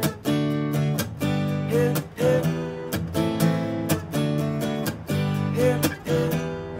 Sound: Kids chanting Spider-Man

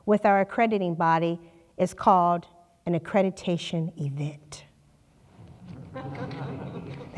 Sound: laughter

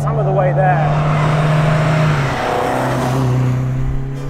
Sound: engine revving

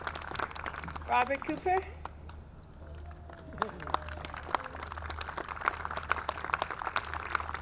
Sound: audience clapping

